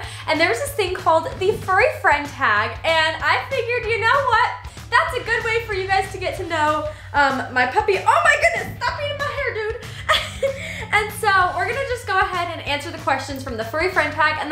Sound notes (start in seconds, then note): 9.9 laughs